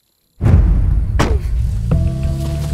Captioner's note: Car door closing